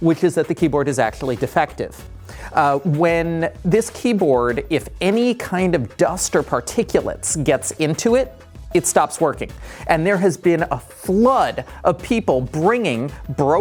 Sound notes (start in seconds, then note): none